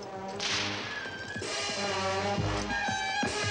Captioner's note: whip cracks